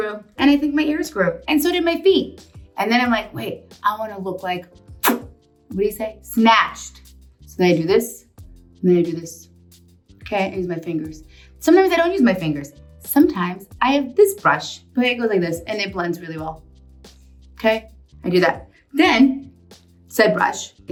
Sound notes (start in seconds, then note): 5.0 lip smacking